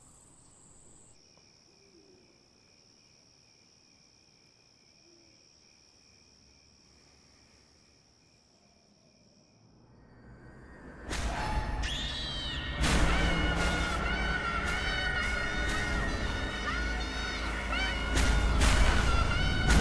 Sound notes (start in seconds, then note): 1.0 insects chirping; 10.0 eerie music; 12.0 Scarlet screaming; 12.0 dramatic music